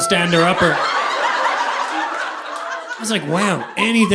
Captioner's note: audience laughing